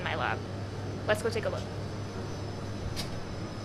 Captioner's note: machines whirring